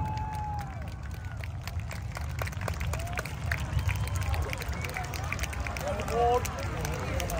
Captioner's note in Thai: ปรบมือ